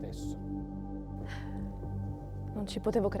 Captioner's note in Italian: sospira